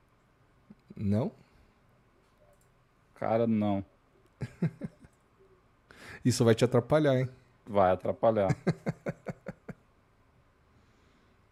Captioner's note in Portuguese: risadas